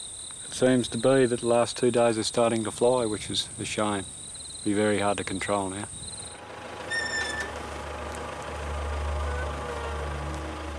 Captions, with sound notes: It seems to be that the last two days they're starting to fly, which is a shame. It'll be very hard to control now. [tractor motor rumbling]